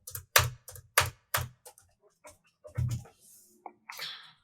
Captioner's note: keyboard clattering